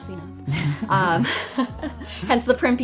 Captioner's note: laughter